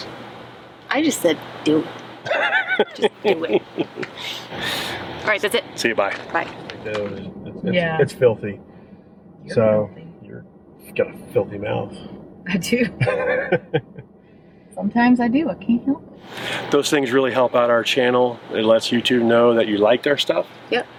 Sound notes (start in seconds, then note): 2.2 laughs; 12.9 laughs